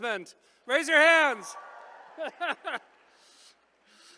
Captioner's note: laughs